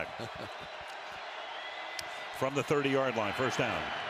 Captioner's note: chuckles